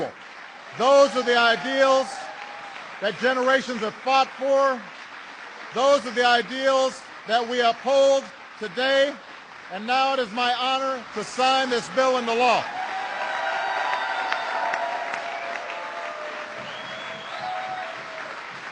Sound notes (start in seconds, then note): 0.1 applause; 10.7 applause